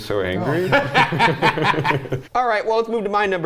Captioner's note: all laugh